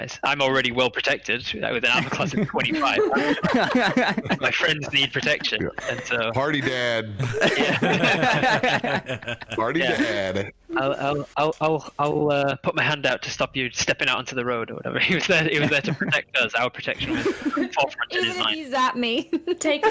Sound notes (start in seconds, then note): 3.5 all giggle; 7.4 emphatic laughter